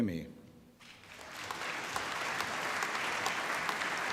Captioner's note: applause